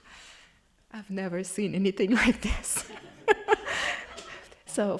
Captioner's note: laughing